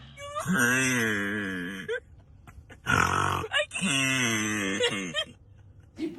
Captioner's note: grunting in super slow-motion; driver and passenger laughing and snorting